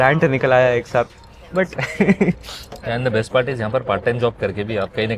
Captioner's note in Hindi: हंसी